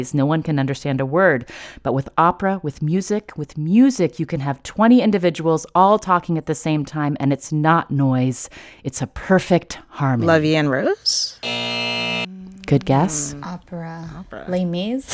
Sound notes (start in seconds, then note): 11.4 soundbite of buzzer